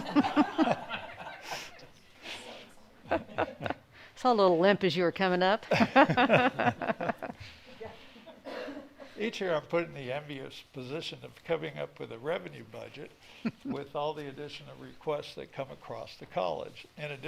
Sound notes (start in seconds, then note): 0.0 all laughing; 5.6 laughing